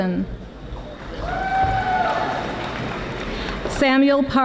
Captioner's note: audience applauding